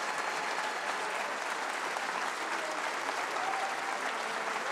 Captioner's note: audience continues cheering